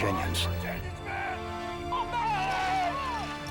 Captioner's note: all shouting